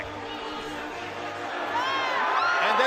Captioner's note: all cheering